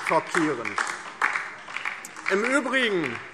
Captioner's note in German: Beifall DIE LINKE